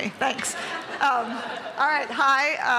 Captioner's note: laughter